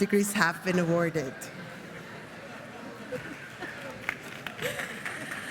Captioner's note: laughing